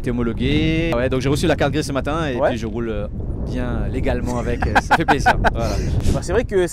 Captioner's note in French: rires